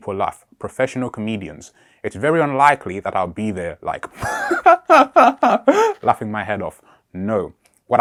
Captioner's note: laughs